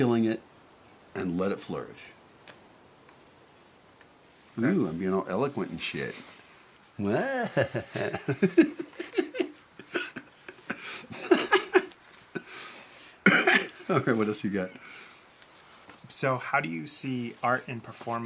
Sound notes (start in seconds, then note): 12.3 laughs